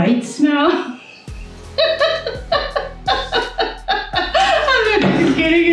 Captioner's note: hysterically laughs